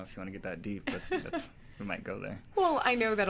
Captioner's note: laughs